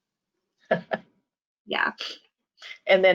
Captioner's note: chuckles